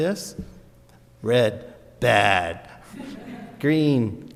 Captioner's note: audience laughs